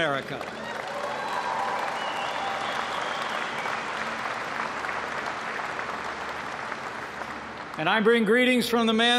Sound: applause

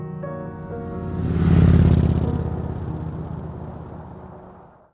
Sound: motorbike roaring

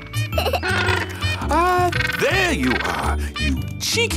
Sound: giggles; honking

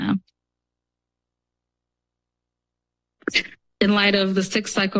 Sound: pause

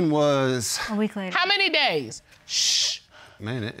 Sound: shushes

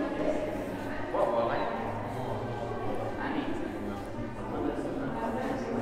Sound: crowd noise echoes

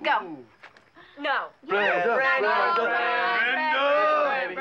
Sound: all clamoring

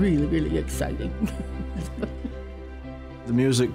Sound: chuckling

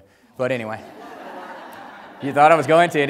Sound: audience laughs

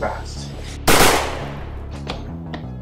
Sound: bang!

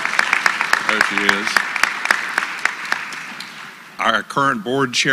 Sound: applause

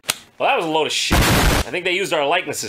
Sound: boom

